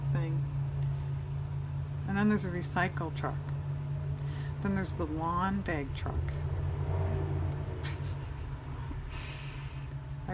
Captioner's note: laughs